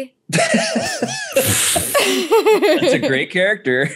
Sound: laughing

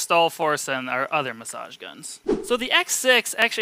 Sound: air whooshing

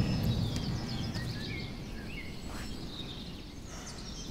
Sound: birds chirping

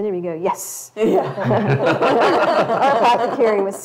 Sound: all laugh

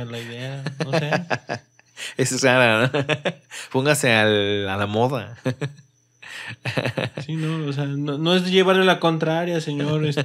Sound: laughs

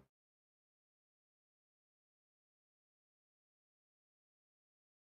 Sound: silence

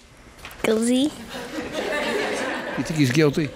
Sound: laughing

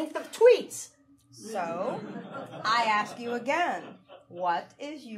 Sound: audience laughing

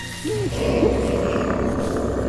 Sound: roar

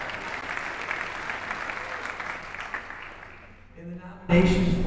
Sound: audience applauding

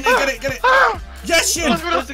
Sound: panicking

